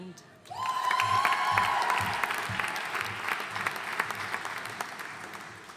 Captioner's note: audience cheering and applauding